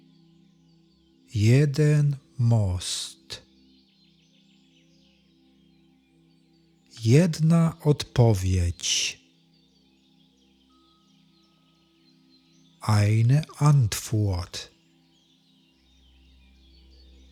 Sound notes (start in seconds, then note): 14.5 german